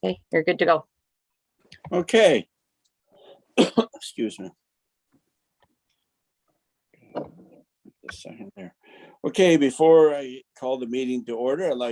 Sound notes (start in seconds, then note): 3.5 coughs